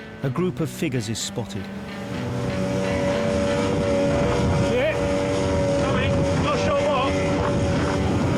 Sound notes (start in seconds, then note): 3.5 boat buzzing